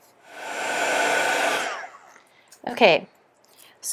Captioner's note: heat tool blowing